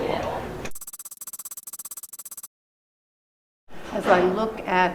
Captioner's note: keyboard tapping